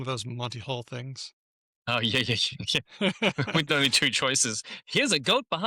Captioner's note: laughter